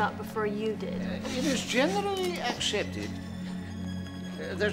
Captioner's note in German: putzt sich die Nase